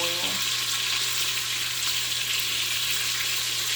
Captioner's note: oil sizzling